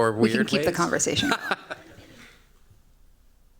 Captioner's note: laughing